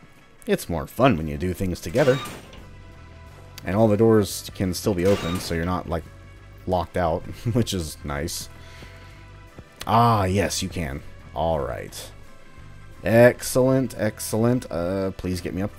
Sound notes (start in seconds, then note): 7.3 chuckles